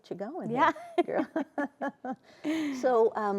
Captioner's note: laughs